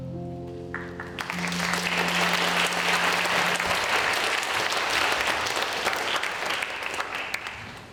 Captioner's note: applause